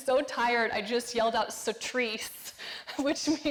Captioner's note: speaking foreign language